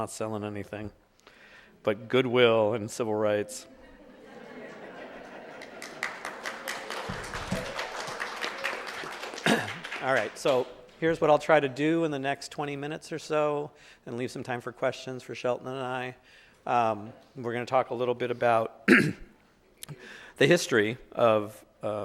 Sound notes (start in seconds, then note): 3.6 audience laughing; 4.9 audience applauding